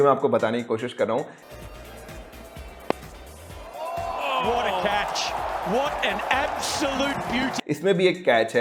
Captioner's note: commentators doing commentary